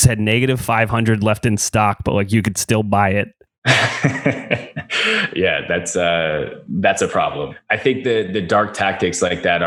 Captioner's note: laughs